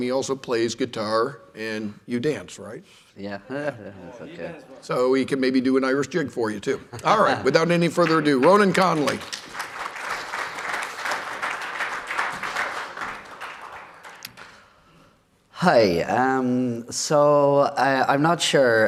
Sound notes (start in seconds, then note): 3.5 laughter; 9.5 applause